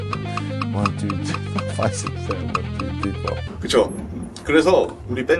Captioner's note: laugh